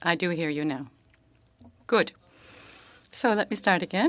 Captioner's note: speaking French